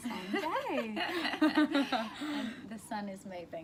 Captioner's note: laughter